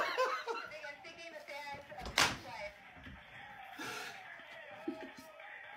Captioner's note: laughter